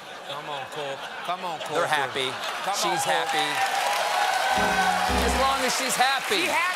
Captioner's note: laughter